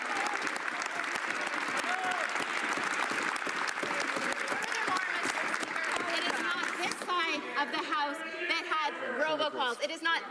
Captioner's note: some Applause